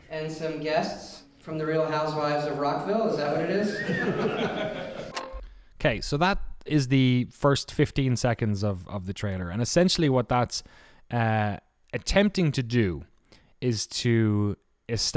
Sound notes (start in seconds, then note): 3.7 whistling and laughter